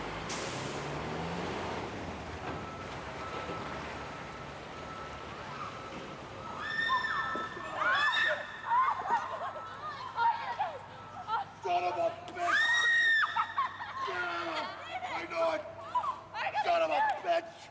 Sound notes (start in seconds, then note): 0.0 engine rumbling; 7.6 group screaming